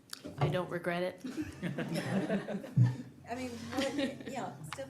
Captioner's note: audience laughing